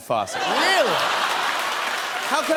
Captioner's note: laughter